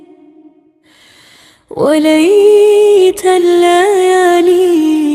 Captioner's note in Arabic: شهيق